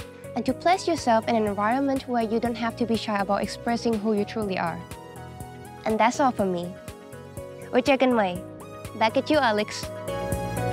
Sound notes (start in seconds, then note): 7.7 speaking in Thai